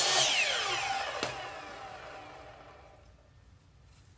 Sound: blade whirling; foot steps

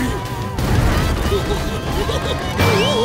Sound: giggling

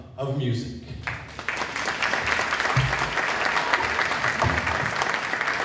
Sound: applause

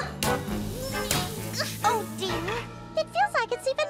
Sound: Daisy grunting

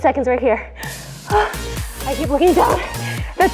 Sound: heavy breathing

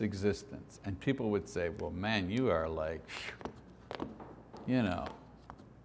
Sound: scoffs

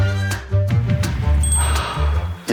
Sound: sniffing

